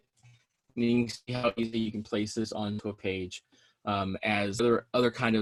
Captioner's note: audio distorting